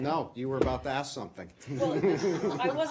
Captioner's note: laughter